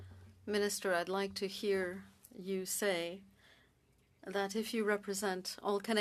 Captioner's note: speaking French